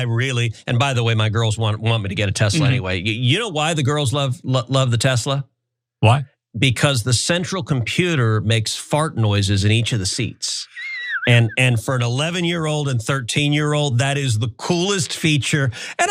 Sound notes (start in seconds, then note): 10.6 laugh